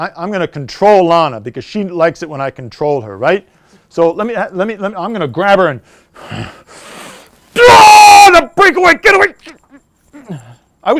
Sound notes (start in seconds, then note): 7.5 yells